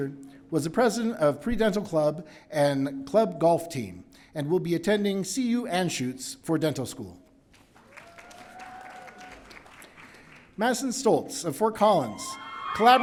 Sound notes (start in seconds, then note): 7.8 audience cheering